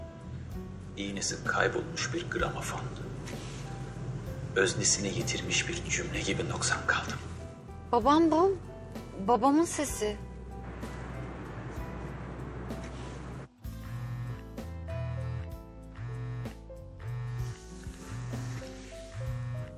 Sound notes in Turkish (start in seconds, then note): 14.0 Telefon titriyor